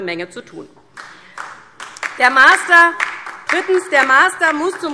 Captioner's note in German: Beifall